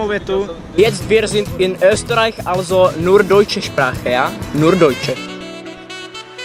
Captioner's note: in German